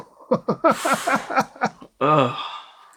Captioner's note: laughter